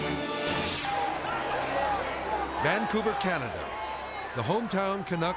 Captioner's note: crowd clamoring